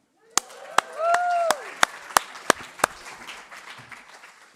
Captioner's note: applause